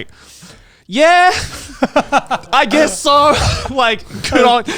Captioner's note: laughing